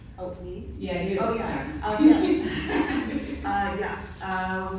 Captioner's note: laughter